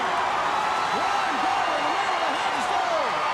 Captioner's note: crowd cheering